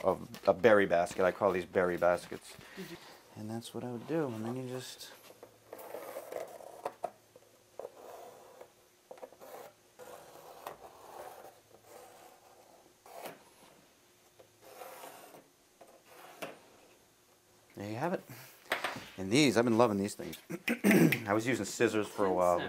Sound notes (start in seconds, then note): 6.1 scraping sound of pencil tracing on bark